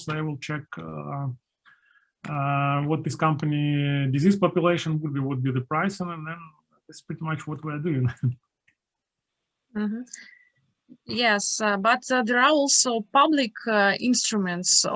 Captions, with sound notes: they will check what this company... Disease population, what would be the price and then it's pretty much what we're doing (chuckles) - Yes but there are also public instruments